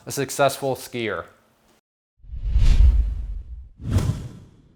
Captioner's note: swooshing